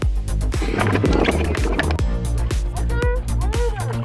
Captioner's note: wind rustling; upbeat music